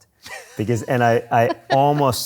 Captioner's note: laughs